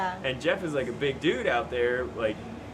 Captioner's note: none